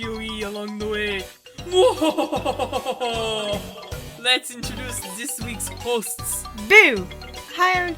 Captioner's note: laughs evilly